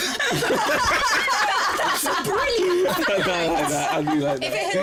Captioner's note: laughter